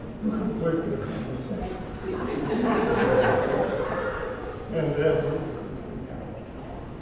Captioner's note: laugh